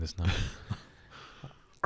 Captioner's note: sniggers